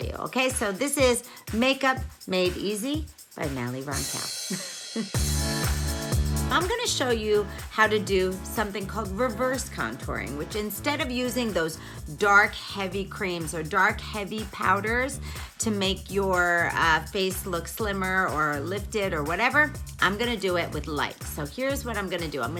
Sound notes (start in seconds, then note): 4.4 giggles; 4.6 upbeat music